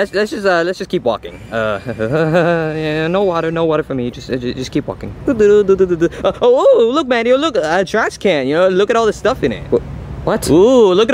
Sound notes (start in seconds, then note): 1.3 laughs nervously